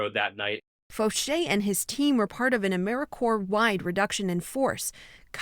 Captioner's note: voice-over